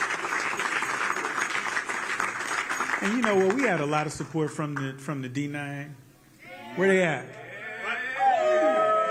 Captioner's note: applause